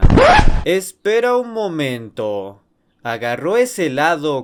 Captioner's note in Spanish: sonido de interrupción